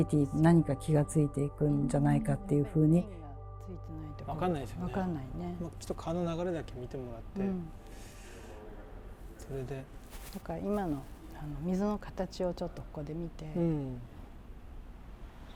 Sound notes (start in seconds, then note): 4.4 Speaking Japanese